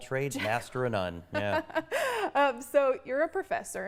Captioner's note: laughs